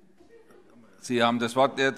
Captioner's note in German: Heiterkeit